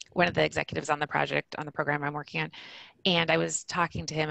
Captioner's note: none